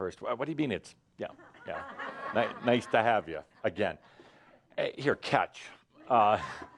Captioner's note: laughter